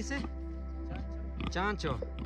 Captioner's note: soft music; speaking in foreign language